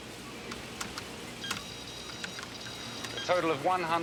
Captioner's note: keys clicking